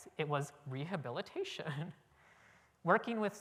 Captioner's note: chuckle